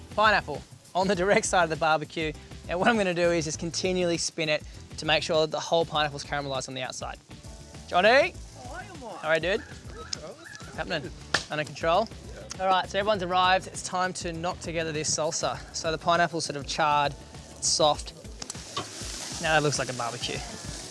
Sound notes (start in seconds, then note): 11.3 friends high-five; 18.6 meat sizzling